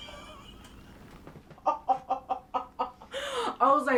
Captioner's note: laughing